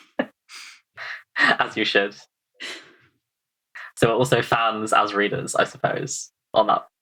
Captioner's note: laughs